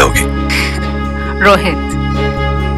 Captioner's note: Chuckles